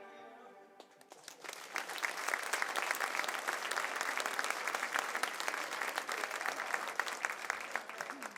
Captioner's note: applause